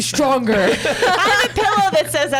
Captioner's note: laughs